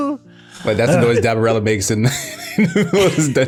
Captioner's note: laughing